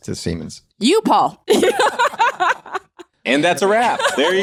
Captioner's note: laughing